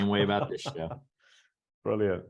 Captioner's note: laughs